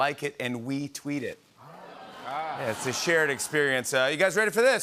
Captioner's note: audience ahs